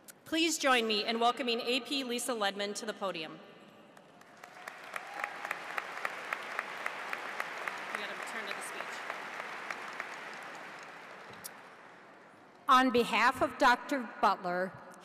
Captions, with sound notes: Please join me in welcoming AP Lisa Ledmon to the podium. (audience applauds) (off mic) You've got to turn it to speech. - On behalf of Dr. Butler,